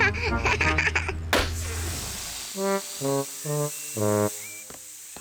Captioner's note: laughs; tire pops, hisses